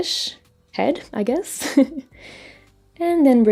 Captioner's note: laughs